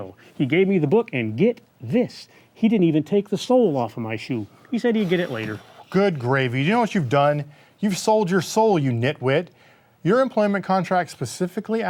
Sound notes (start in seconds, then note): none